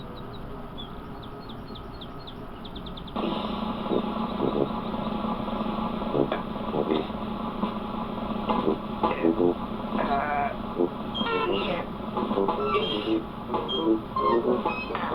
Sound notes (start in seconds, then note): 10.0 grunting; 10.4 beeps, squeaking